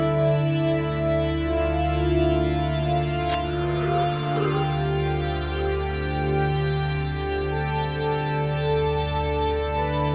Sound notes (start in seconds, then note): 2.9 knife stabbing; 3.9 woman gasping